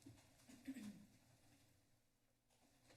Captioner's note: clears throat